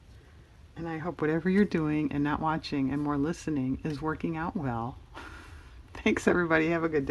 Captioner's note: laughs